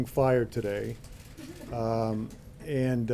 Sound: laughter

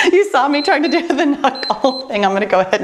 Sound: timer beeps

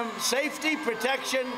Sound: cheers and applause

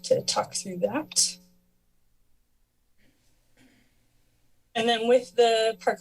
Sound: pause

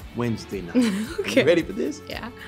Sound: laughs

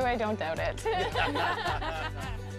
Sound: all laugh

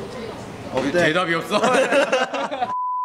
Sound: laugh

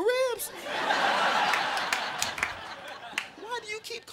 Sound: crowd laughing

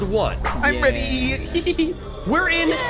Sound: giggles

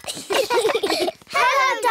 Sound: all giggling

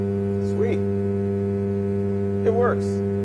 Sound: buzzing sound

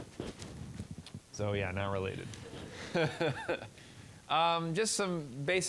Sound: all laughing

